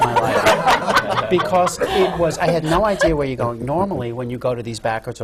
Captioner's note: laughter